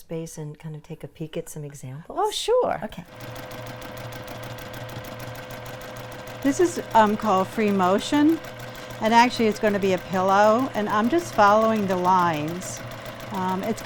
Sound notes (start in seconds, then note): 3.2 machine whirring